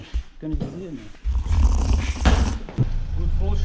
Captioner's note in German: schlürf